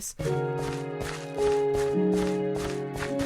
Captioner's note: running sounds